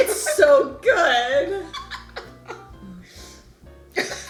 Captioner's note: laughing